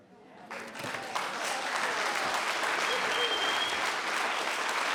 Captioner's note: applauding